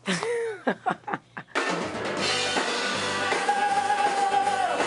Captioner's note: laughs